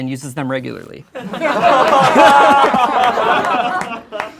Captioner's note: laughing